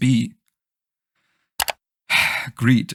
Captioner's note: sigh